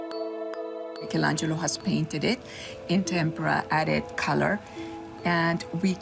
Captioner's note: music fades out; female voice in English